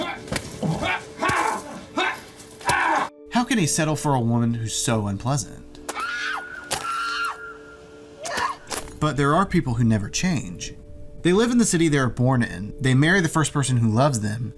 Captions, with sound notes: How can he settle for a woman who's so unpleasant? - ( SCREAMING ) - ( CRUNCHING ) - But there are people who never change. They live in the city they are born in, they marry the first person who loves them,